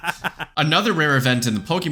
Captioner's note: both laugh